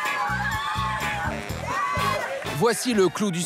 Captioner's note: hollers